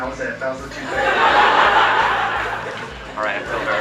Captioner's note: audience laughing